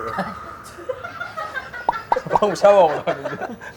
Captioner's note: laughing